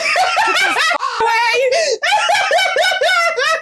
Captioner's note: caw